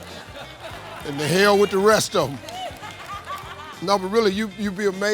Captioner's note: audience laughs